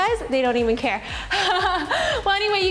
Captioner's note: laughs